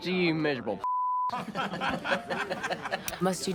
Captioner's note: laughing